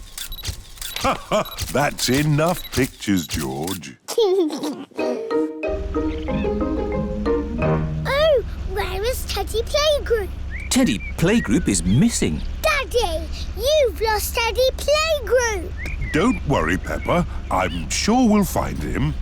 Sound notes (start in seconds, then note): 0.9 laughs; 4.0 giggles